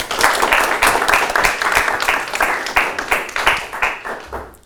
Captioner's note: audience applauding